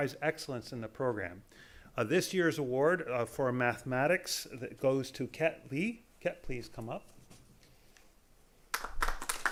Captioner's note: applause